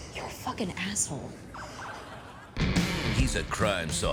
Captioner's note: wife sobbing